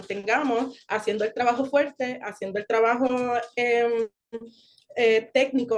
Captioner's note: continues speaking Spanish